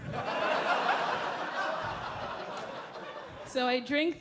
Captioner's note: audience laughing